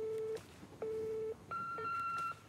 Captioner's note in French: Bip